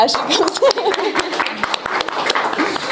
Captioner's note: applause